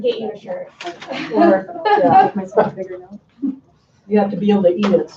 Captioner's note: laughing